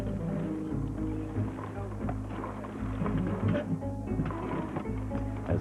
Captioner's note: men Chattering